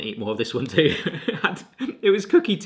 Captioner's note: laughing